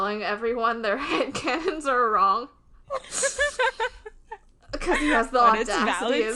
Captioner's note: laughing